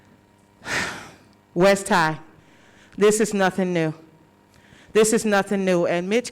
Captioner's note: sighs